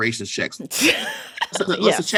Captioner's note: laughter